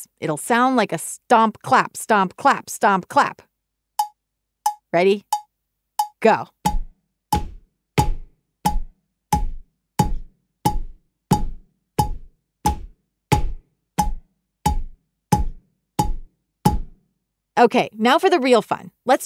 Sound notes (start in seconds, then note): 7.0 beat tapping; 7.0 foot stomping